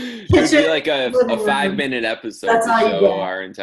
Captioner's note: murmurs